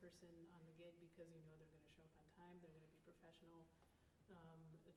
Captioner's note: none